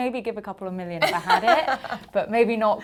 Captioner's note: laughing